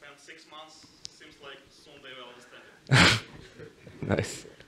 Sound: chuckles

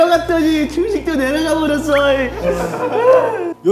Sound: boo hoo

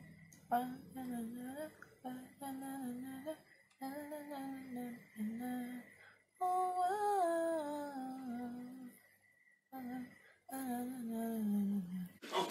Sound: humming

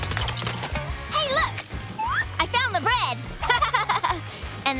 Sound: laughing

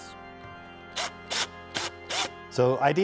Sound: electrical drill whirring

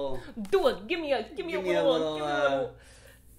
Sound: mocking

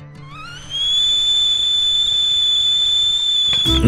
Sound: kettle whistling

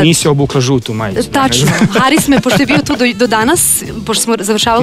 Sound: laughs

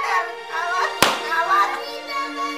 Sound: belt slaps

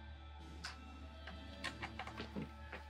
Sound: cable rustling

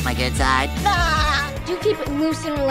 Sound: laughing

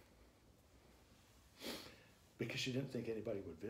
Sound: sniffles

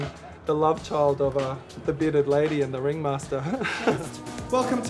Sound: laughs

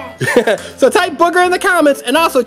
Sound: laughing

